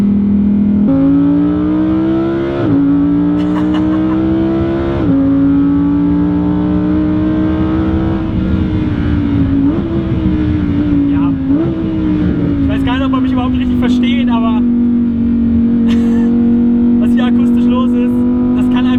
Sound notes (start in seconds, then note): 3.4 laughter